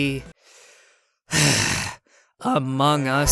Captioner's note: sigh